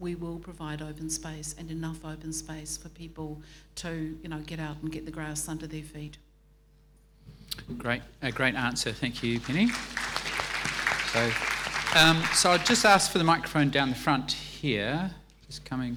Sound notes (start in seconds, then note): 9.0 audience applauding